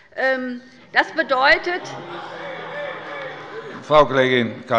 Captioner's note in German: Zurufe von der CDU und dem BÜNDNIS 90/DIE GRÜNEN